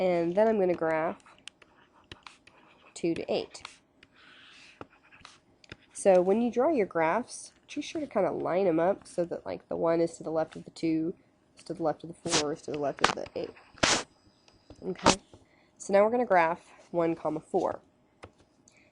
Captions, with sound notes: and then I'm gonna graph two to eight. (pen sliding) So when you draw your graphs too sure to kind of line 'em up so that like the one is to the left of the two is to the left of the four is to the left of the eight. (rip paper) Okay, so now we're gonna graph one column four.